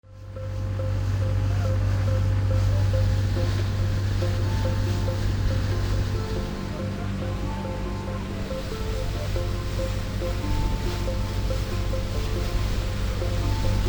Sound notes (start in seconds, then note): 0.9 gentle percussive music; 0.9 water rushing